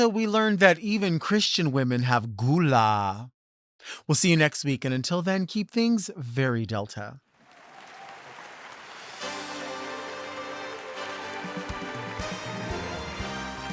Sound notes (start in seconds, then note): 7.4 audience applauding; 9.2 upbeat music